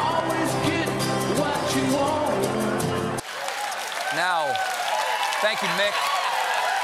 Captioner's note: cheers and applause